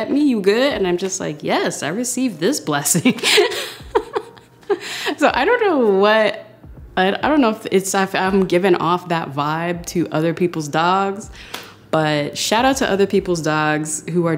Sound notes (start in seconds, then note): 2.9 laughing